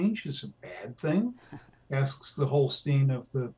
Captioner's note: laughs